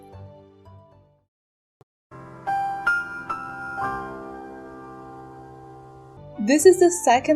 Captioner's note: the more you know sound